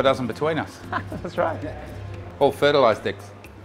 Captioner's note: chuckles